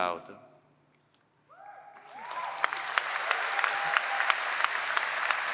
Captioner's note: applause